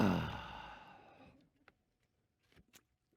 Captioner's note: heavy sigh